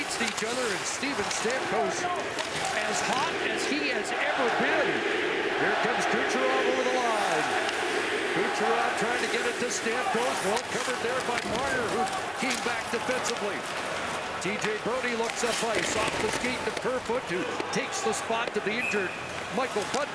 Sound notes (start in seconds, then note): 9.3 chanting